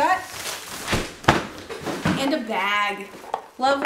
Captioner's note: crumbling, bang